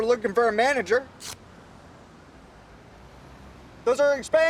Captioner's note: card tears